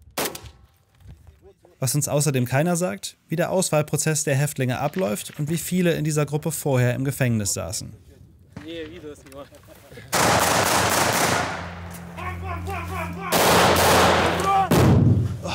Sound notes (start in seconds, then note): 10.1 gunshots; 12.1 shouts